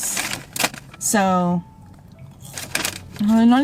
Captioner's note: crunch